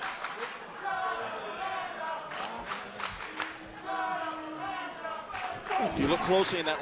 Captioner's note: crowd cheering